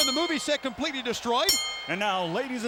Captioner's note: bell ringing